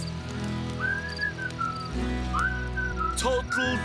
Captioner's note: whistling